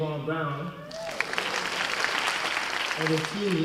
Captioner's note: cheers and applause